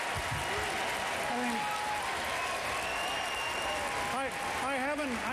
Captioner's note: applause